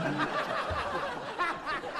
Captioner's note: laughing